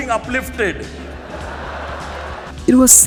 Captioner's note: crowd laughs